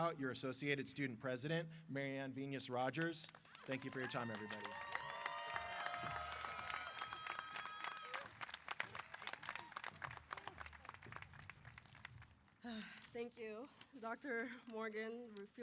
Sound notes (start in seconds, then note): 5.5 applause & Cheers